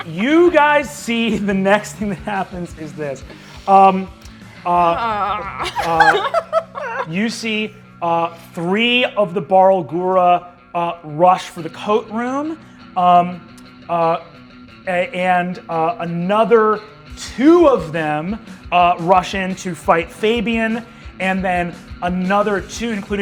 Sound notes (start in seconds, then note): 4.7 groans; 5.2 laughter